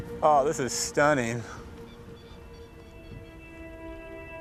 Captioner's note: bird squawking